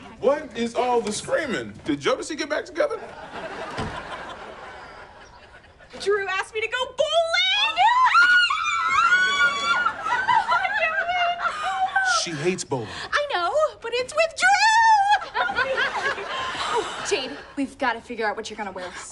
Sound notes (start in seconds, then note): 7.7 both scream; 7.9 Cocoa laughs; 14.7 Cocoa laughs